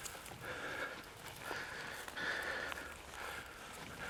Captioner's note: heavy breathing